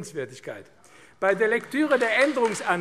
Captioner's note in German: Beifall AfD